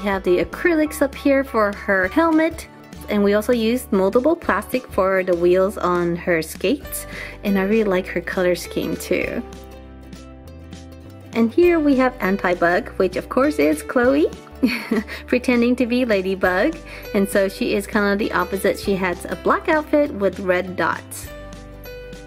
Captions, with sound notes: We have the acrylics up her for her helmet and we also used multiple plastic for the wheels on her skates. I really like her color scheme, too. Here, we have Antibug which of course is Chloe (laughs) pretending to be Ladybug and so she is kind of the opposite. She has a black outfit with red dots.